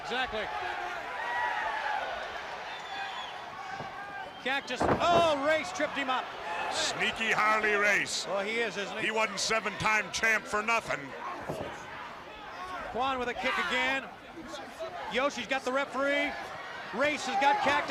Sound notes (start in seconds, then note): 1.3 crowd cheering